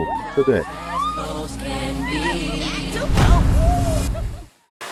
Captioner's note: cheering